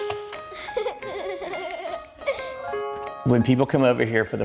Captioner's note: child laughs